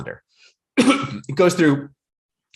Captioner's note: coughing